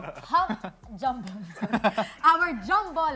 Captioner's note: chuckles